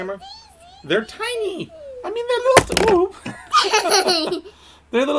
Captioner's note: laughter